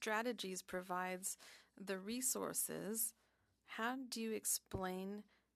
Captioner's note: speaking French